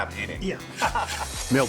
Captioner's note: laughter